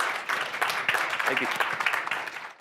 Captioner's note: applause